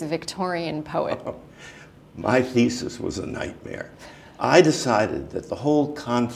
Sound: chuckle

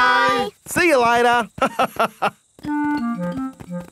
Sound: laughs

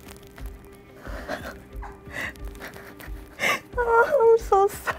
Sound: laughing

